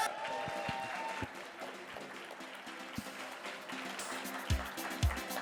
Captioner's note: audience applauding